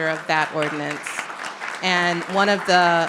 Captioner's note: audience clapping